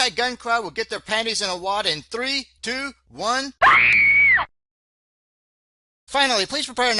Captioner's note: sound of woman screaming